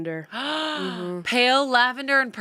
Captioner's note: gasps